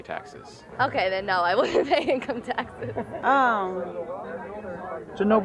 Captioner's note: smiling and giggling